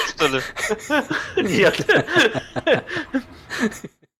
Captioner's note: laugh